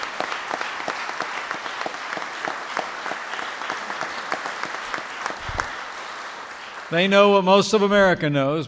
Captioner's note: applause